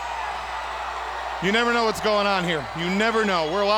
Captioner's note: crowd cheering